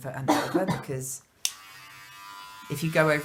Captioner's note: buzzing